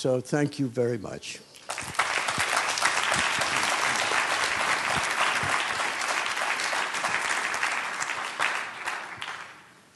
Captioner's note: applause